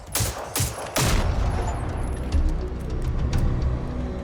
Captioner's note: robot booms